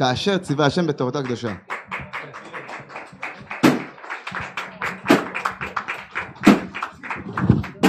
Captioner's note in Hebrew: מחיאות כפיים